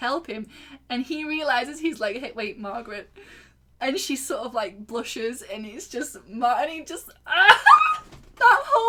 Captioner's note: squeal